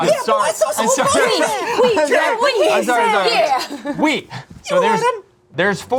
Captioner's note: group talking